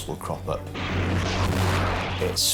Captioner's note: water splashes